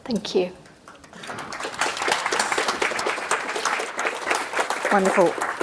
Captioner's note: audience clapping